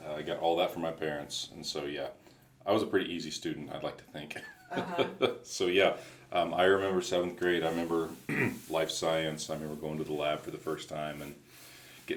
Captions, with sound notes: I got all that from my parents, and so yeah, I was a pretty easy student, I'd like to thank. (laughs) So yeah, I remember 7th grade. I remember life science. I remember going to the lab for the first time